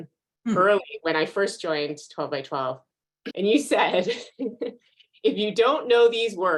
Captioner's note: chuckles